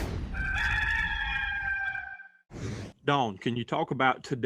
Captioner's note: rooster crows